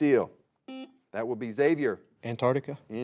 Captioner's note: buzzer beeps